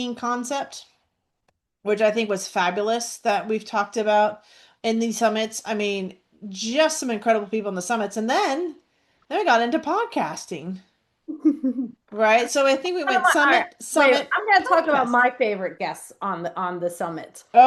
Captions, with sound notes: concept, which I think was fabulous that we've talked about in these summits. I mean, just some incredible people in the summits. And then, then we got into podcasting. (laughs) Right? So I think we went summit to summit. I want... All right. Podcast. I'm gonna talk about my favorite guests on the, on the summit.